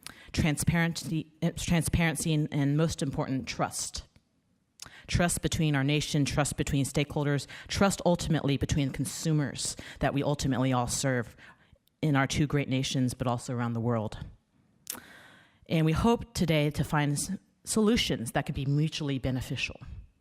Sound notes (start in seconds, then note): none